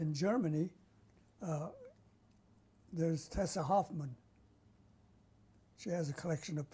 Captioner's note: pauses for 3 seconds